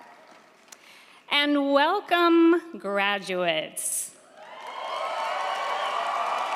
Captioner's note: crowd cheering